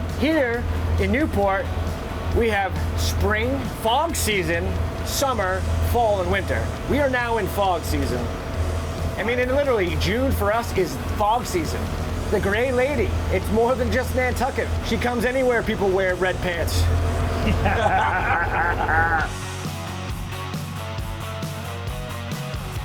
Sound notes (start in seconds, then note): 17.3 anglers laughing; 19.3 upbeat music continues